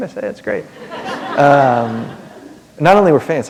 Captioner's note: laughter